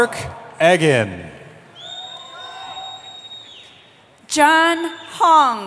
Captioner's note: cheering